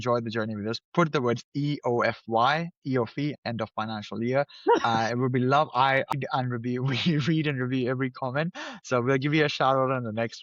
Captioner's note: laughs